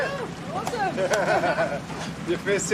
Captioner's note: all laughing